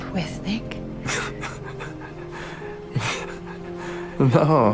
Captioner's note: Luke starts laughing